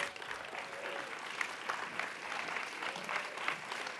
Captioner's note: audience applauds